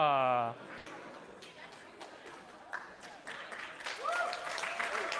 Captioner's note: applause